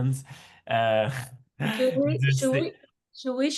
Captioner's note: laughs